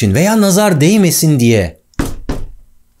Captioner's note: tak, tak sound